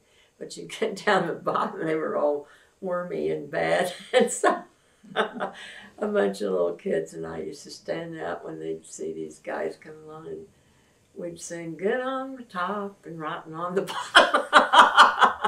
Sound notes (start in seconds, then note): 5.1 laughs; 13.9 laughter